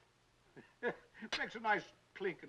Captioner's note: Arch chuckles